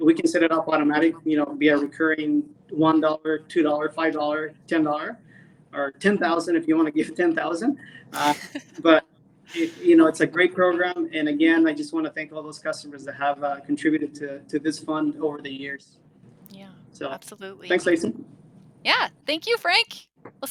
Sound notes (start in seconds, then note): 8.1 laughs